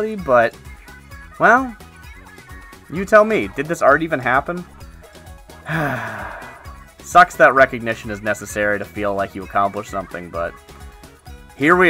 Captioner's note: sigh